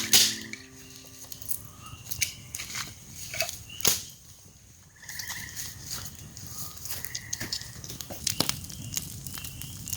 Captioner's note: crackling fire & wilderness & frog sounds